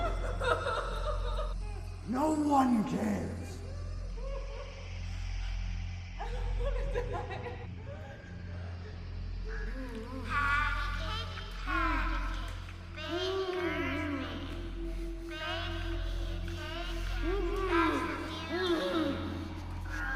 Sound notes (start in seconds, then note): 0.0 woman sobs; 3.6 woman cries